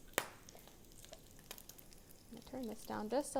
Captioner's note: bacon crackling